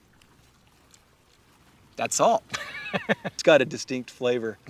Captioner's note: chuckles